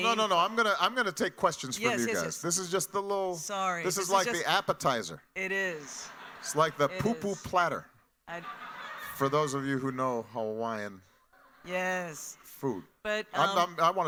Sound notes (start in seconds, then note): 5.9 audience laughing